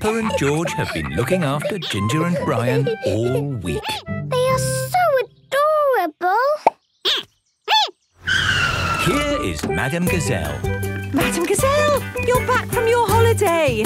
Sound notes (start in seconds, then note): 6.3 squeaking